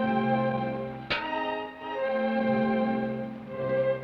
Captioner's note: pan clangs